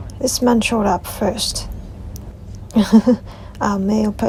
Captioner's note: laughs